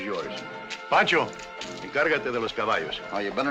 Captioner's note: in spanish